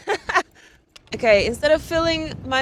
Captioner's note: person laughing